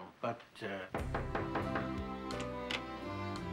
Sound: knocking

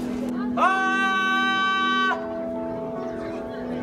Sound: screaming

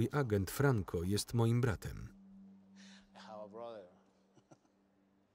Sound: laughing

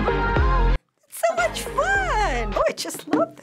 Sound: gushing

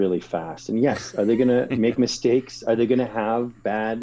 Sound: laugh

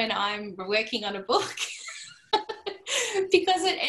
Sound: laughter

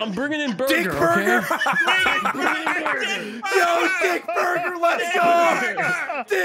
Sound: laughs

